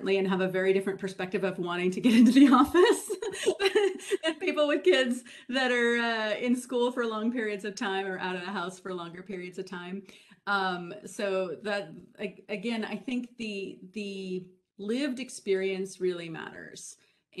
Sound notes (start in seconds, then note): 2.4 laughs